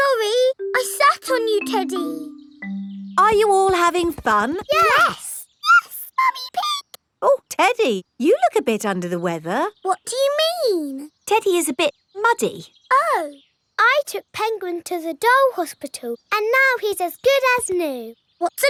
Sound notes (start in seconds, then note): 5.7 in high-pitched voice; 10.1 in normal voice